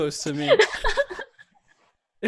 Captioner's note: laughs